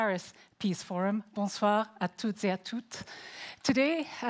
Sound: speaking in foreign language

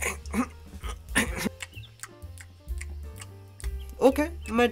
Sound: eating sounds

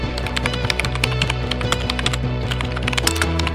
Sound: typing

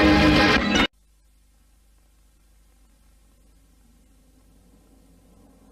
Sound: VHS static

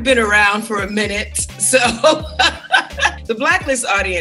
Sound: laughs

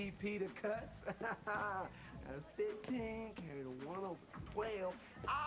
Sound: laughs

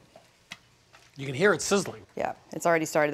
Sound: faint sizzling

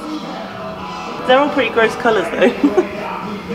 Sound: laughs

